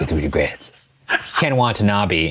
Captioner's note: laughing